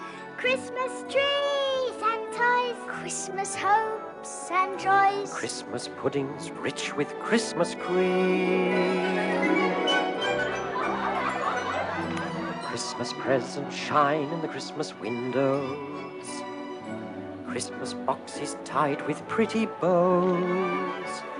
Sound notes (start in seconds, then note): 8.7 laughing